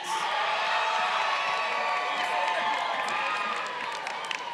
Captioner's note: crowd cheering